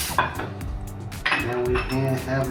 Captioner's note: plates clanking against countertop